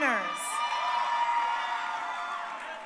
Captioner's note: crowd cheering